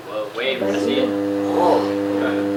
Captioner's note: low pitch sound